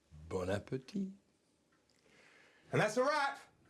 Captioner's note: guy speaking in foreign language